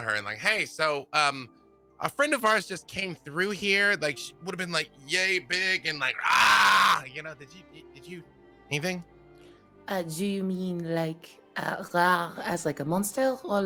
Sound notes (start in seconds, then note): 6.2 roars